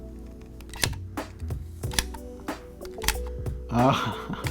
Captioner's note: clicking